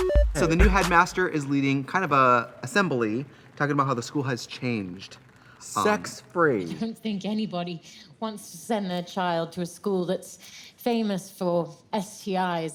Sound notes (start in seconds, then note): 0.0 fun music; 6.6 laughs